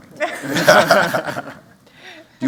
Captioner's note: laughter